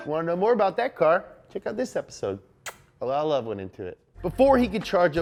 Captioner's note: kisses